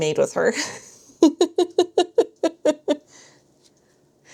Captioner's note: laughter